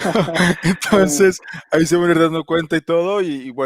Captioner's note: laughs